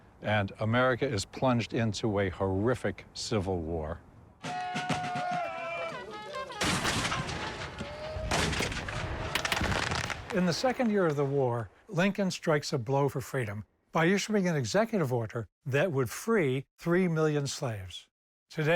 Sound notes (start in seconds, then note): 4.4 drumming; 6.5 cannons firing; 9.6 gunfire